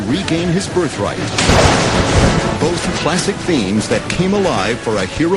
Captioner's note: thunder